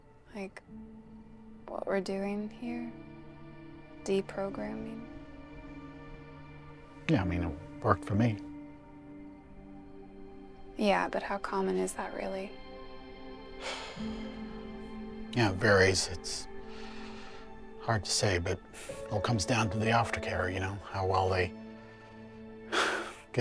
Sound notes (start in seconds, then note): 13.6 sighs; 22.6 exhales